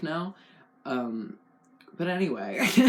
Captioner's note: laugh